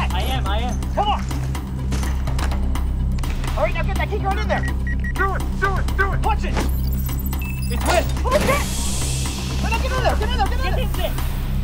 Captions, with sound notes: I am I am! Come on! Alright now get that key card in there! Do it, do it, do it! Punch it! [electronic processing/door lock opening] - It worked! - Holy shit! Now get in there, get in there, get in there!